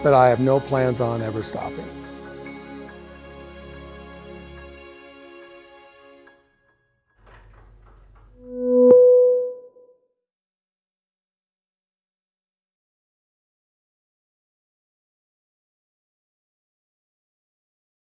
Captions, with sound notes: but I have no plans on ever stopping. (chiming)